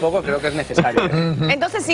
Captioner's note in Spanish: risas